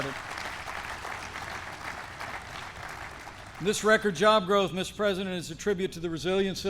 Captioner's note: applause